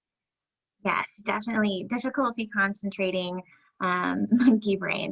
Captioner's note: chuckles